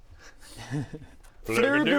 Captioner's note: chuckles